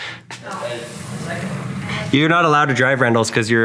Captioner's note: door slides